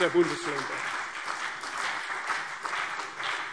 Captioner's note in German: Beifall CDU und BÜNDNIS 90/DIE GRÜNEN